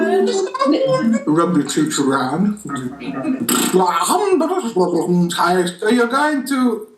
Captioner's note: lip trumpet